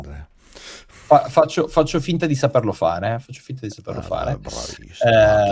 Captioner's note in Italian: sbuffare